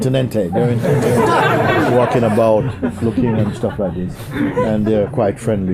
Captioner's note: laughter